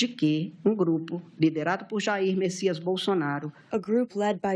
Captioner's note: through translator